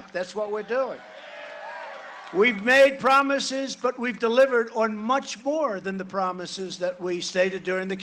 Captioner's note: cheering and applause